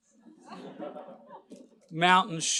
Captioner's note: laughter